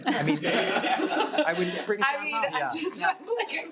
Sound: people laugh

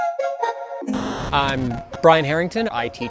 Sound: robotic music; TV static buzzes

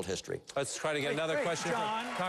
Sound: applause

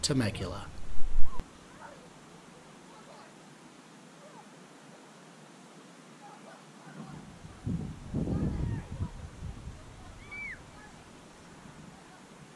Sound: children playing

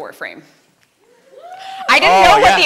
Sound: light cheers

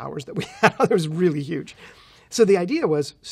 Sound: laughs

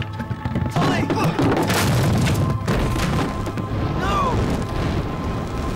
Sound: barrels crashing

